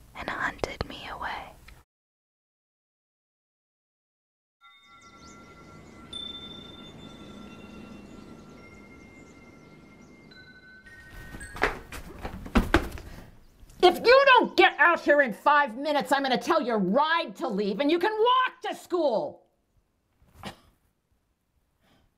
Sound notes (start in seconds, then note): 8.7 chimes clinking